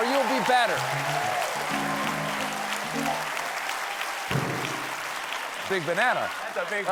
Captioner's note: applause